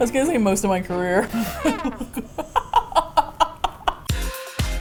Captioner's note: sad trumpet sound; laughs; both laugh; upbeat Music